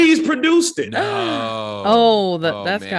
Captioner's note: gasping